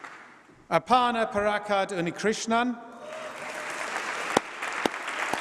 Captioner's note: applause